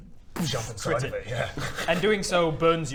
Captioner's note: boosh!